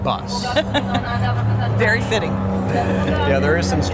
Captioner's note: laughing